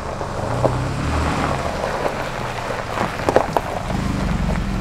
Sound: gravel clacking

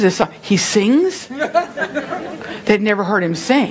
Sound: laughing from congregation

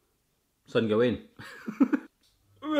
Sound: laughs

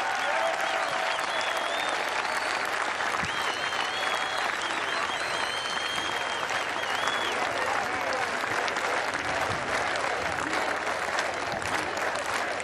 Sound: cheers and applause

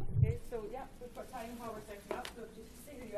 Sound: voiceover

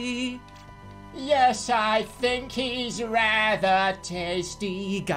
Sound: goofy ahh voice

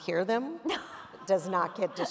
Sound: laughter

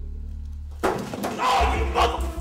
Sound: bangs

